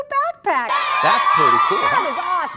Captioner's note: cheering!